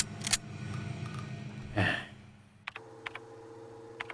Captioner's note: sigh